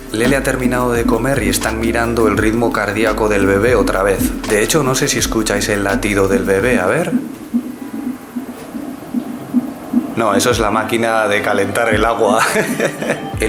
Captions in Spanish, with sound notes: Lele ha terminado de comer y están mirando el ritmo cardíaco del bebé otra vez. De hecho, no sé si escucháis el latido del bebé. ¿A ver...? (Edit: Ruido constante a pulsos como si viniese de una bomba) ¡No! ¡Eso es la máquina de calentar el agua! XD